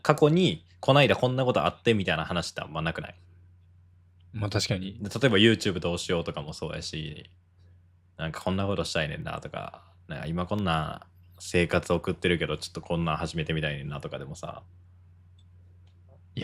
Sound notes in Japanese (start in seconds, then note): none